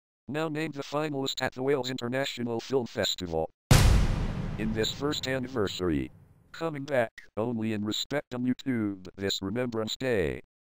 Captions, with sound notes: Now named for the finals at the Wales International Film Festival 2020. (EXPLOSION) In it's 1st anniversary. Coming back only in respect to YouTube, this Remembrance Day.